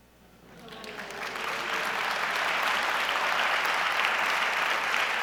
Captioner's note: audience applauds